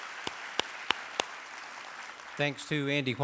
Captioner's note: applause